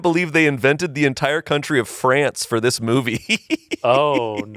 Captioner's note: laughs